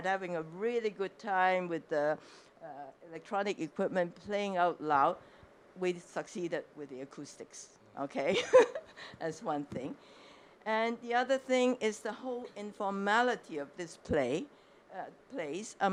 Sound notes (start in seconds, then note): 8.3 giggles